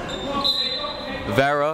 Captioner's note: whistle